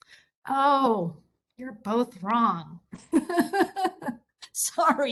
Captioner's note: laugh